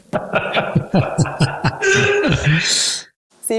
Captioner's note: even more little laughs; more little laughs